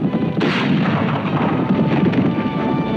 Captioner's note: gun bangs; exciting music; guns bangs